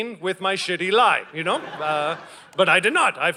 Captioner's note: audience laughing